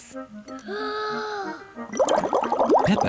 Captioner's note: takes big breath